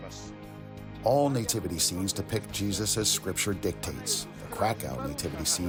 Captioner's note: through translator